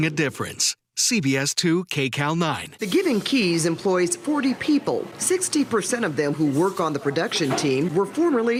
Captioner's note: speaking spanish